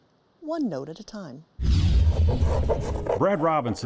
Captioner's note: tool scraping